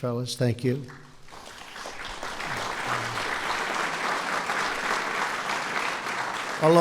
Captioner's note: applause